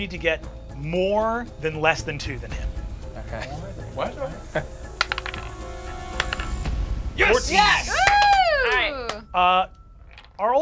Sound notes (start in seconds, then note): 5.0 dice clattering; 7.2 cheers; 7.6 group applauds